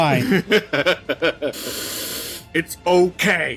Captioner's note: laughter